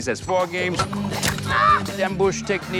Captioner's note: hits tree